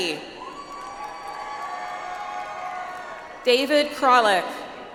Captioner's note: audience applauds